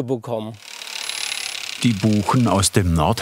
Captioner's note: rattling